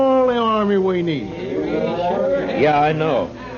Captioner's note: crowd murmuring